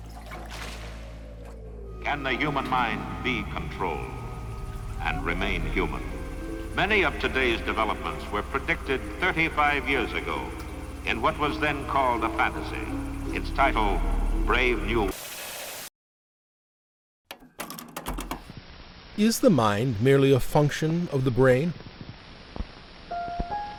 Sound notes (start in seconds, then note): 18.5 static